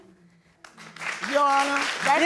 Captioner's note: audience clap